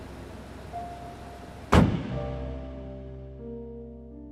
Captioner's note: door slams; dramatic piano music